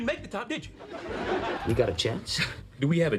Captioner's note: audience laughing